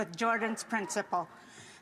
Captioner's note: speaking Indigenous Language